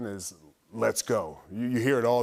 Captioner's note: none